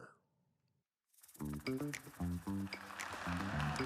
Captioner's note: applause